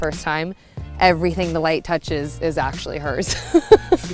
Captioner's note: laughing